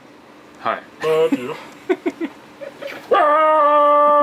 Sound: laughs

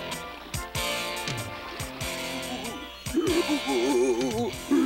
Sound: crying

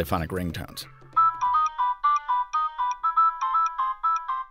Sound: phone ringing

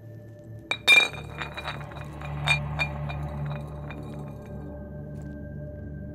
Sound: bottle rolling down the floor

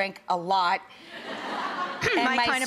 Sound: audience chuckling

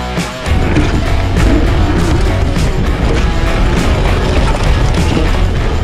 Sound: tires rumbling on the ground

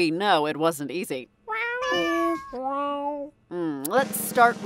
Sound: group meowing

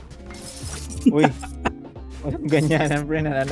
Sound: laughs

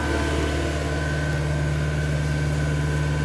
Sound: machine roar

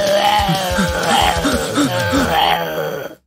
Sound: puffs; zombie sounds

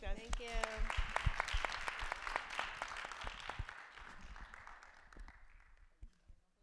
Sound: applause

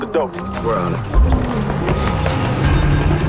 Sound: engine turns

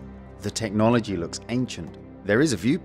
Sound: none

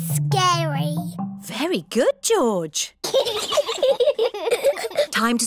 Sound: both giggle

